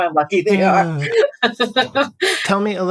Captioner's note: laughter